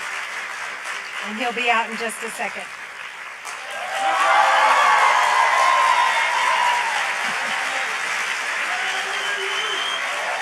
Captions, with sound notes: And he'll be out in just a second. (audience applauds and cheers)